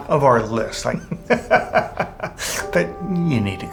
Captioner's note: laughs